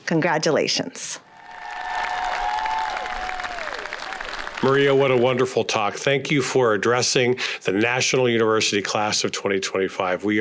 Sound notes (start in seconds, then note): 1.2 graduates cheer